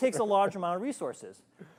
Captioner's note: chuckling